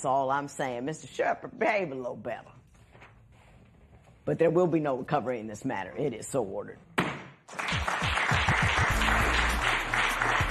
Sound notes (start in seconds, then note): 7.4 applause